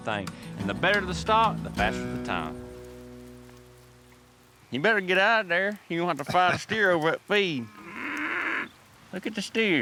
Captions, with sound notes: AND THE BETTER THE STOCK, THE FASTER THE TIME. YOU BETTER GET OUTTA THERE OR ELSE YOU'RE GONNA HAVE TO FIGHT A STEER OVER THAT FEED. [MOOING] LOOK AT THE STEERS.